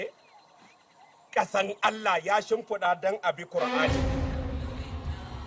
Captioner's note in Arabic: الصوت المنطوق باللغة العربية